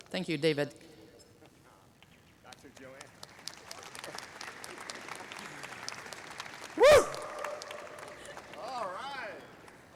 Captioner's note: applause